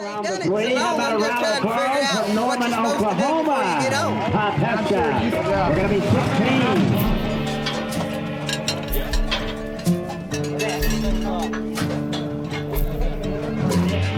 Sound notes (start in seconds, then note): 5.1 metal gates clanking